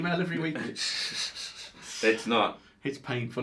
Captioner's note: chuckles